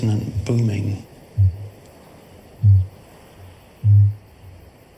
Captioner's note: Kākāpō booming